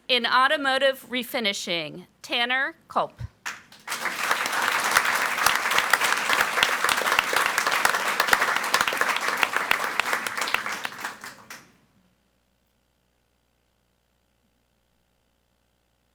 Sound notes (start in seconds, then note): 3.4 audience applauds